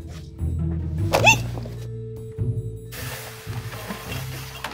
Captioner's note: squealing